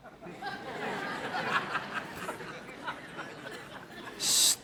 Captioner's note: audience laughs